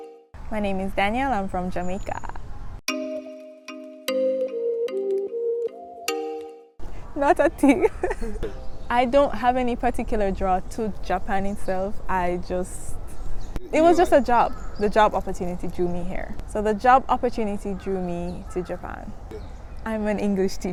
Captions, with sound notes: My name is Danielle, I'm from Jamaica. Not a thing! (laughter) I don't have any particular draw to Japan itself. I just... It was just a job. The job opportunity drew me here. So the job opportunity drew me to Japan. I'm an English teacher.